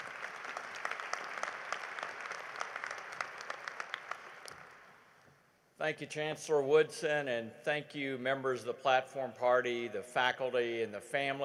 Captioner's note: applause